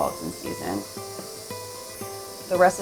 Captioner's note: water running